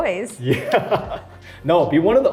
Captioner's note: laughs